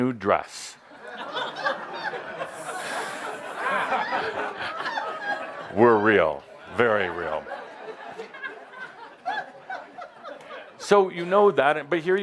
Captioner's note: laughter